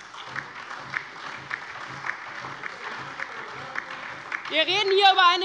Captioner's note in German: Beifall bei der LINKEN und der SPD